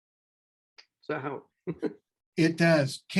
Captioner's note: laughs